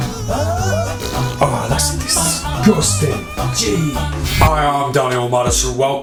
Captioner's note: yelling and farting